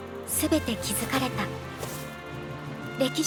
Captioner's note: none